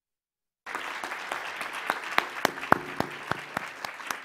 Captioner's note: applause